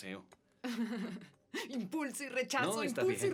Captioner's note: laughs